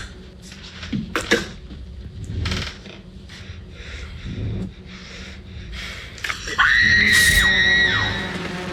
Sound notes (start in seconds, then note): 1.1 spits; 6.5 screams